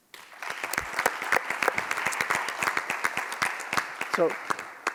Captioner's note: audience applauds